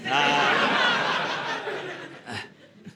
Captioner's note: audience laughing